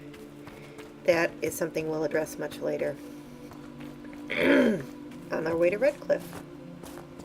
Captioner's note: clearing throat